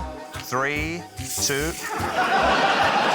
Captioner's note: laughter